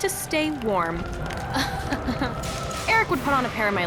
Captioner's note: chuckles